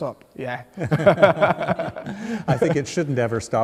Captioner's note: laughing